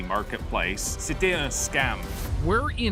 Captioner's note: speaking in French